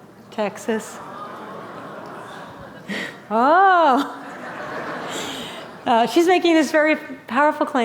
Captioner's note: laughter